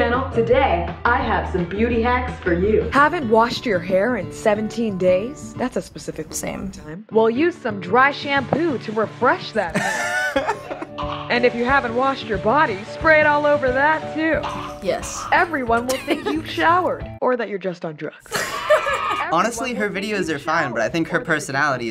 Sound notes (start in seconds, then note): 2.9 voice-over; 9.7 laughing; 15.8 chuckles; 18.2 laughs; 18.6 children cheer